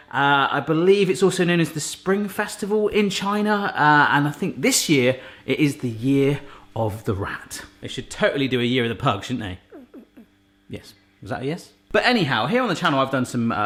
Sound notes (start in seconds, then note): 9.7 whimpering